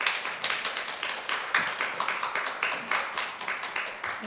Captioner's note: applause